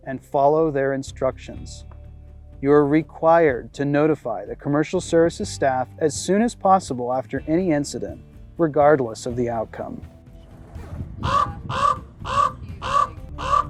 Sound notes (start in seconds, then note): 11.2 cawing